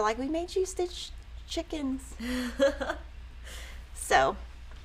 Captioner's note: giggles